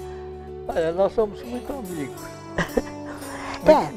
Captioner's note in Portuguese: risos